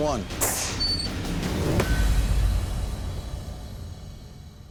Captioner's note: whoosh, clang